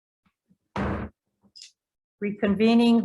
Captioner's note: gavel bangs